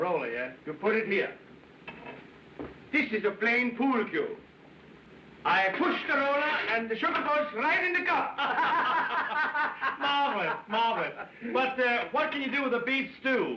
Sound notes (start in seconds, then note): 8.3 laughing